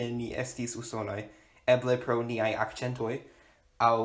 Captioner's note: in an American accent